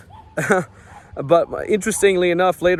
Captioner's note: dog barking; chuckles